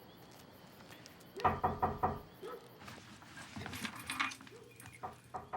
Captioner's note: knocking continues